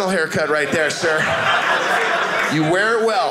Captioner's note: audience laughing